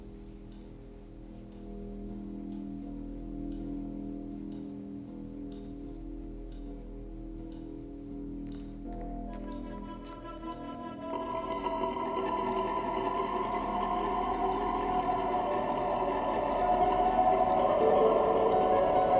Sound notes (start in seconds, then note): 2.7 clock ticking; 2.7 dark and tense music